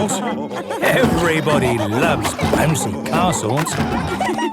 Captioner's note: laughter